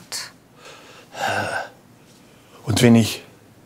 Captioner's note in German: Seufzen